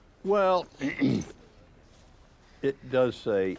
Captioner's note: clearing throat